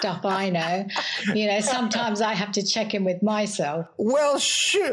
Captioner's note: laugh